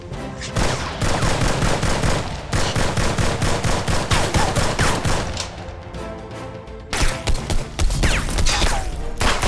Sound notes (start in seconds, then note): 0.6 machine gun firing; 6.9 gun firing